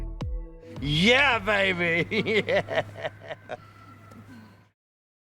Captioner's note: laugh